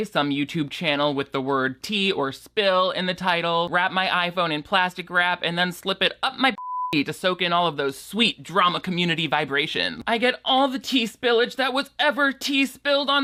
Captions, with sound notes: some YouTube channel with the word tea or spill in the title, wrap my iPhone in plastic wrap, and then slip it up my (beep) to soak in all of those sweet, drama community vibrations. I get all the tea spillage that was ever tea spilled